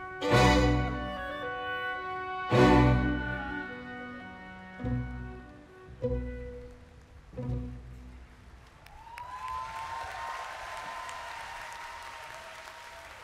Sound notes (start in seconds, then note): 8.6 music ends, whoops and applause